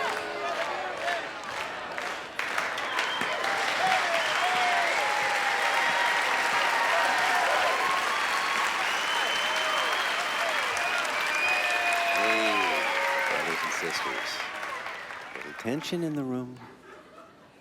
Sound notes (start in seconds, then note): 4.5 clapping and cheering